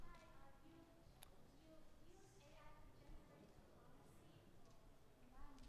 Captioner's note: audience Member 3 speaking softly